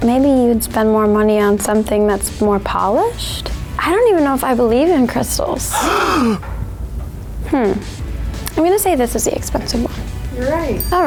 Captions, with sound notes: Maybe you would spend more money on something that's more polished. I don't even know if I believe in crystals. (gasps) Hmm. I'm gonna say this is the expensive one.